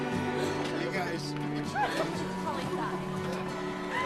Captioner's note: PEOPLE CHATTERlNG